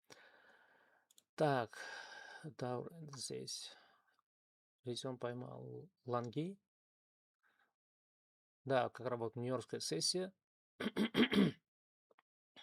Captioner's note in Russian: кашель; откашливается